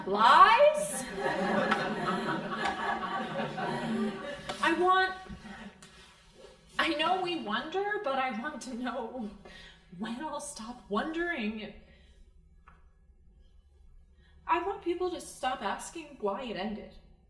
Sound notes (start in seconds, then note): 0.9 crowd laughing